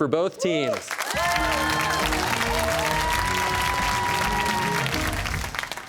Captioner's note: cheers and applause